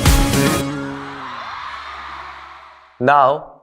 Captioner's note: pop music; crowd cheering